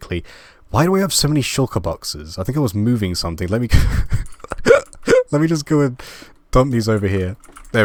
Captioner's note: laughing